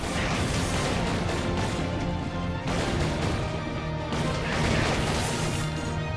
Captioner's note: intense music; weapons clanging and booming